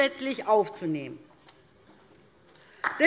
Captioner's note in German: Beifall DIE LINKE